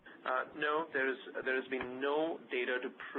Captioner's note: voiceover